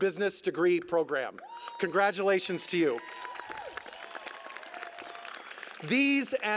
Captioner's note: applause